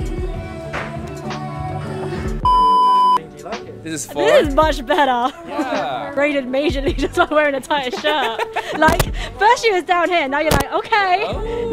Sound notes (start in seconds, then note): 2.4 color bars beep